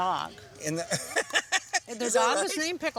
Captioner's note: laughter